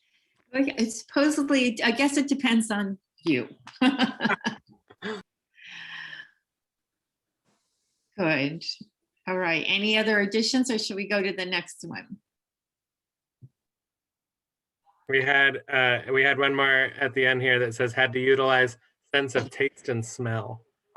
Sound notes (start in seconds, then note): 3.7 laughter